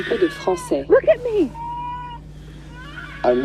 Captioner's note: baby wailing